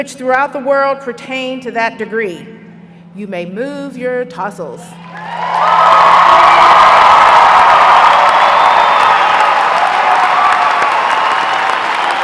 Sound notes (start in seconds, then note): 7.8 applause